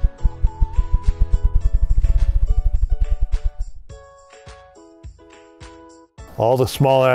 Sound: rapid wing beats

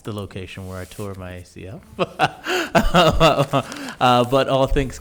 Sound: laughs

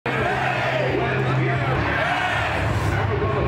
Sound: crowd cheering

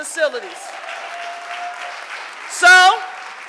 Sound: audience applauding

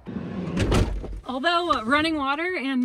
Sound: door thuds

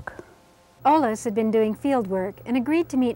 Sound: voiceover

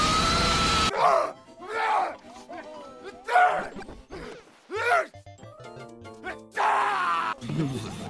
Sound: angry Gaming Noises

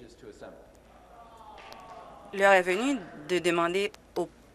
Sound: applause

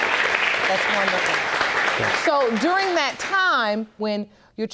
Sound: audience applauding

